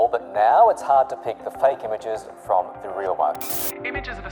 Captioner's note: radio static